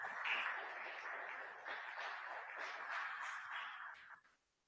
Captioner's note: audience clapping